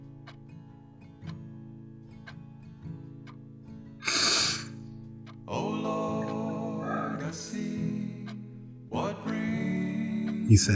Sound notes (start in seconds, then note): 4.0 crying; 5.0 singing